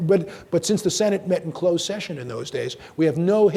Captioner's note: none